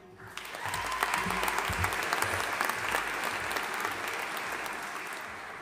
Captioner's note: audience applauding and cheering